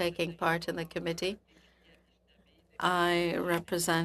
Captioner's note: speaking in French